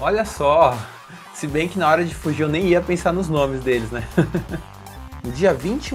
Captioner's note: laughs